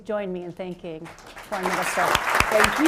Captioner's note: applause